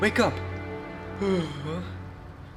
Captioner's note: yawns